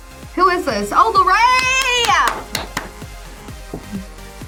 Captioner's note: claps